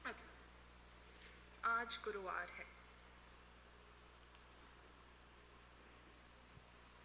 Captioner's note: speaking hindi